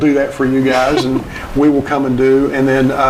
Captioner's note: chuckling